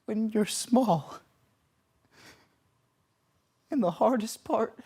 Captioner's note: heavy breathing